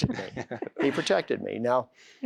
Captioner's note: laughter